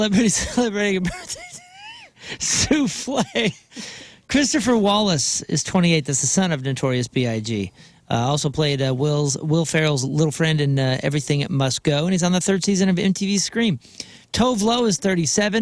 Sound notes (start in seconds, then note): 0.1 laughter